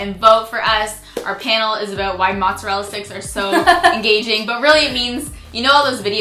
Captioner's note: laughs